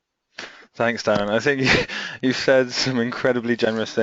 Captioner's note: chuckles